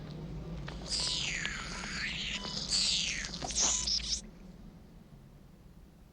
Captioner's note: squealing